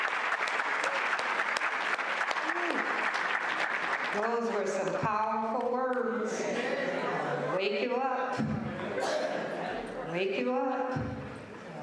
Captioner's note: applause